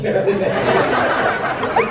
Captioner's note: audience laughs